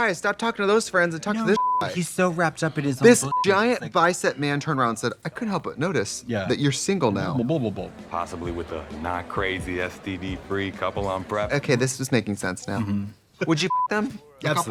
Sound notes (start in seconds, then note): 1.5 beep; 13.7 beep